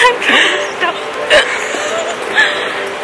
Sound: laughing.... Again

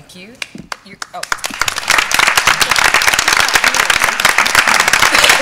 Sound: applause

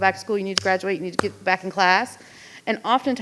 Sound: hands clapping

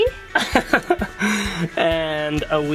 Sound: laughing

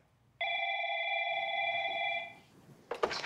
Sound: phone rings

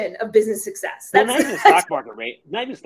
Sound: laughing

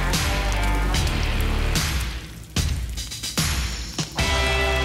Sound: upbeat music; steak sizzling

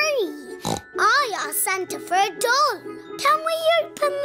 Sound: snorts

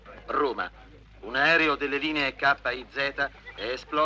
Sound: TV news

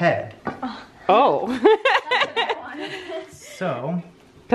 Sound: laughs

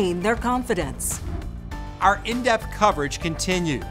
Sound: logo swooshing

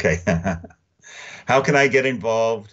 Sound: chuckling

